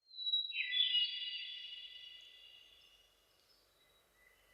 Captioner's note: birds chirping